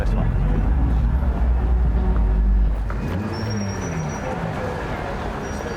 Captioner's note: traffic